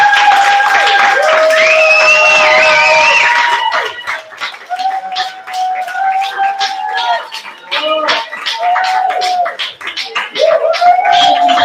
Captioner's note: cheering and applauding